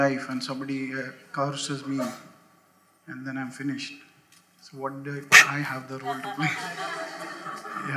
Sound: laughter

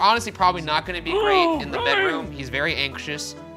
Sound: groaning

